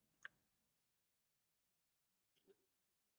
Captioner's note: click; click